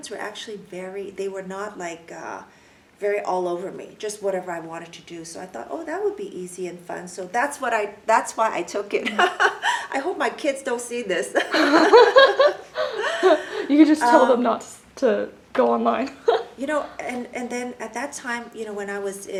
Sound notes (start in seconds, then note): 9.0 laughs; 11.4 laugh